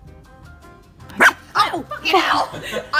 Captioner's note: screams; Wilma barking